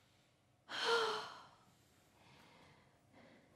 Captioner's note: a sigh